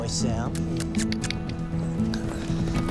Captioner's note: clicks tongue